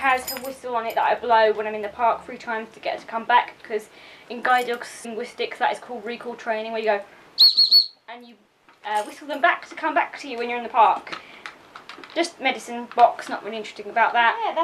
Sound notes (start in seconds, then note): 7.4 blows whistle 3 times